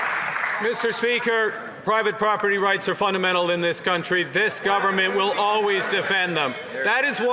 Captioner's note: some Applause